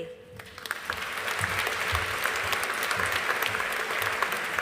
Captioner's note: audience applauding